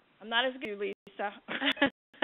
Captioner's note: laughter